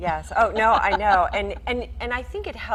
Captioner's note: laughing